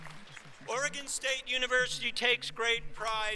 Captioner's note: applause